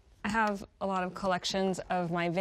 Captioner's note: none